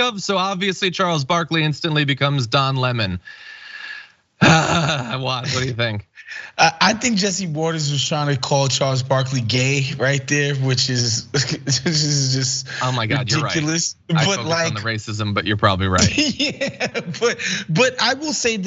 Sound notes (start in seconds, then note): 15.9 laugh